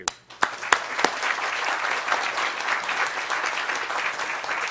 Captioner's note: applause